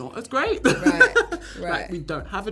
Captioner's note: laughs loudly